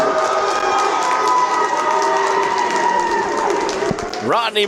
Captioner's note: crowd clapping and cheering